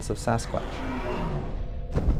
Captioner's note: animal growls